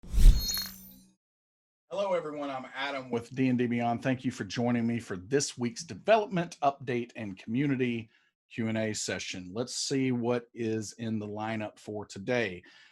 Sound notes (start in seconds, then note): 0.2 air whooshing